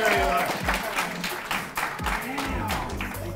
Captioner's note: audience clapping